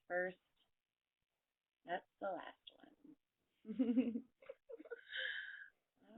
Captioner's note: laughs